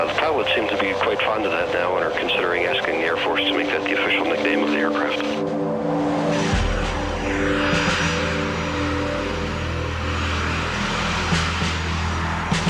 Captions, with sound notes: The pilots seem to be quite fond of that now, and are considering asking the Air Force to make that the official nickname of the aircraft. [plane noise]